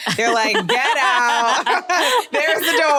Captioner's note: laughter